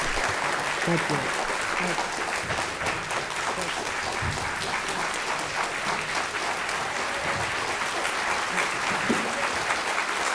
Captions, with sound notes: Thank you, thanks. (audience clapping)